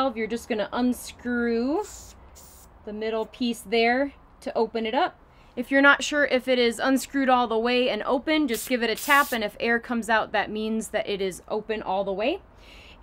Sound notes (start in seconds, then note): 8.9 air hisses